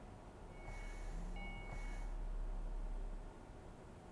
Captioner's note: phone rings, buzzes